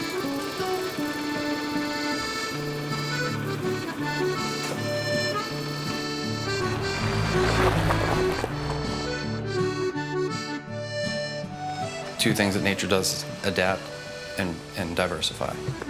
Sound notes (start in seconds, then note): 0.3 appalachian folk music continues; 6.3 truck rumbling; 15.6 appalachian folk music continues